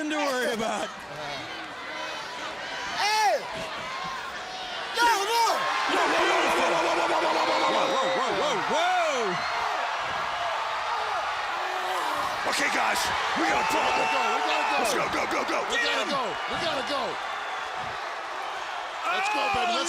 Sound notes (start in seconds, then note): 2.0 crowd chatter; 12.8 crowd cheering